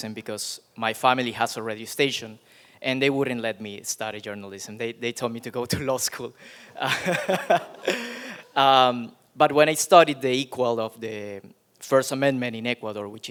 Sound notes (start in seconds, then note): 6.8 laughs; 6.8 audience chuckling